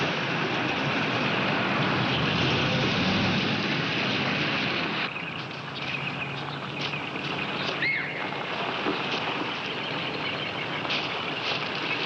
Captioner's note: motor revving